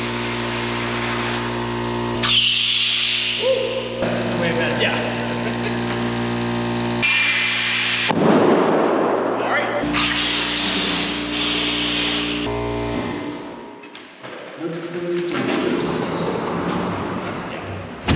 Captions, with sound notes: (balloon hissing) Whoo. - This is way better. - Yeah. (chuckles) (balloon banging) Sorry! (air hissing) Let's close the doors, yep.